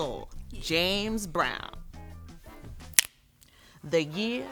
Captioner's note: snapping fingers